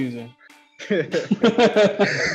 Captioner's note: laughs